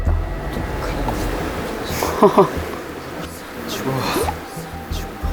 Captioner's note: murmuring